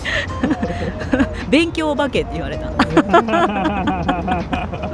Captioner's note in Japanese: 笑い